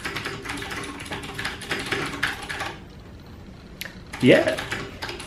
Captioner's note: keyboards clacking